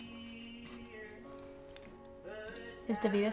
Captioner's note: pepper grinding